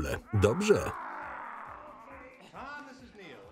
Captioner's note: yelling